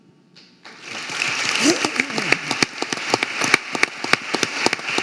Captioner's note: audience applauding